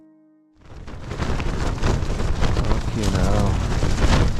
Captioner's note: wind blowing loudly